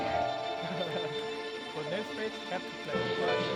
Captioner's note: laughs